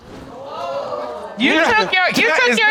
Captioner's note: audience exclaims